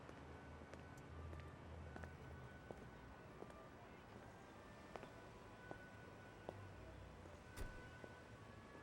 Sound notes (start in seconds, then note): 4.4 footsteps